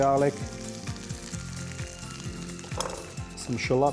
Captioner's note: pan juices sizzling